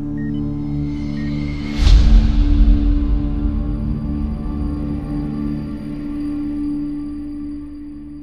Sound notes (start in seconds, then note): 1.6 title whooshes